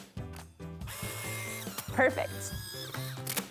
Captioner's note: film ejecting